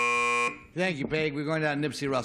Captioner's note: buzzer